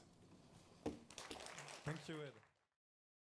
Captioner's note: audience clapping